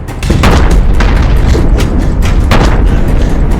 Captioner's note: explosions